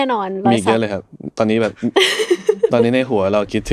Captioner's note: laughs